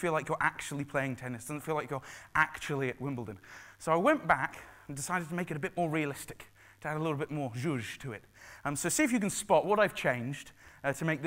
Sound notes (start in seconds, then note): 7.7 foreign language spoken